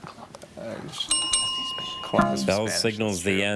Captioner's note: bell dings twice